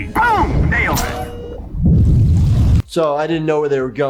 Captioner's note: mechanical whirring